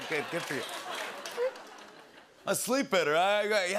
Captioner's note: laughter